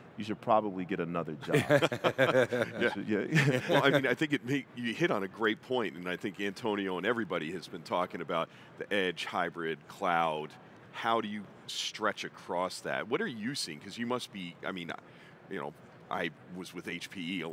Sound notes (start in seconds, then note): 1.4 chuckling